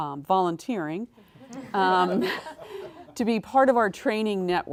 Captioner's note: laugh